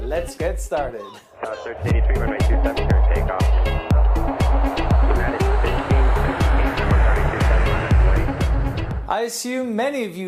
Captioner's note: jet engine